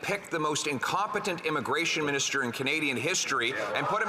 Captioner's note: some Applause